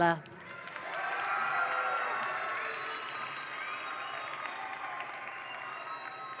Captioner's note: attendees cheer; attendees applaud